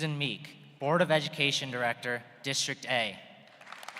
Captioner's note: applause